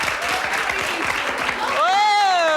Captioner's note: audience applauds